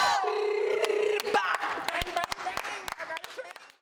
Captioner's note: dancer trilling